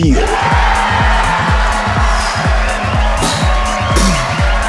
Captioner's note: cheering